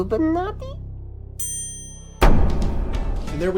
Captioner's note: bell ringing; lively music